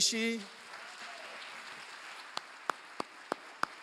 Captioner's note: applause